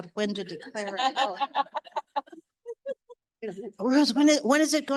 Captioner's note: audience laughing